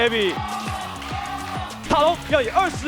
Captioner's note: Crowd cheering “FoFo”